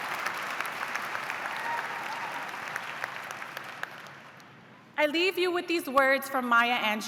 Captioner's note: cheers and applause